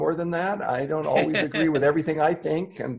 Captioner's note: laughing